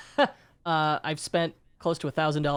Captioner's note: laughs